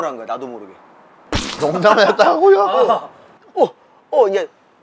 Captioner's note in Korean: 웃음